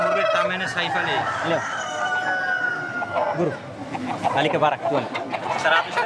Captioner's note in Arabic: نقيق الديوك